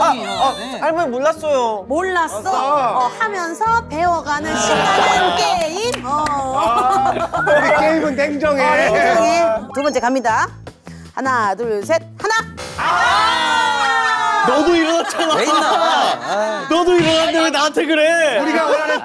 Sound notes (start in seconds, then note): 4.9 laughing; 13.7 arguing